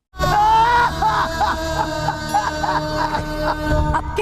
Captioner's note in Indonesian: berteriak